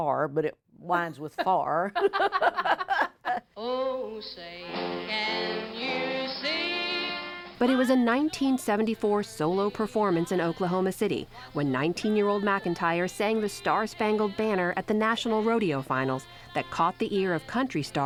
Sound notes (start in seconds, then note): 1.8 laughter